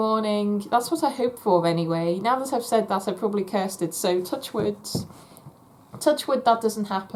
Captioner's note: knocks on wood